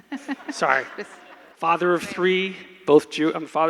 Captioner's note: laughs